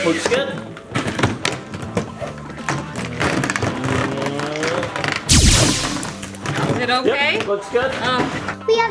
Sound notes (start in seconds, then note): 3.3 machine buzzing; 3.3 machine zapping